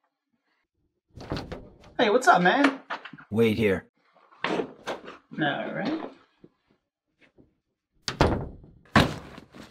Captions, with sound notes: Hey. What's up, man? - Wait here. - Alright... [DOOR SHUTS]